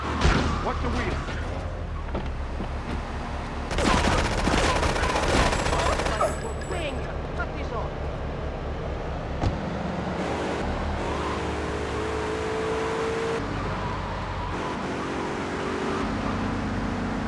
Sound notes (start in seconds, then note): 3.7 gun firing